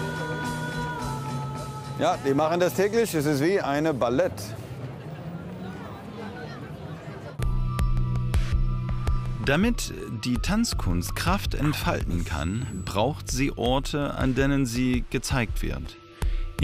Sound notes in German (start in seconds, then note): 5.4 Stimmengewirr; 7.9 Abwartende Musik